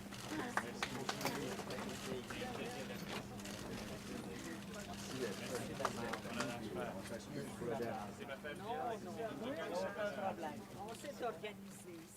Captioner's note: applause